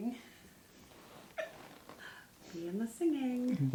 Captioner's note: laughs